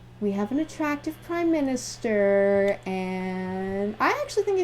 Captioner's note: none